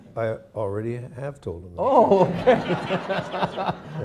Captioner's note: laughter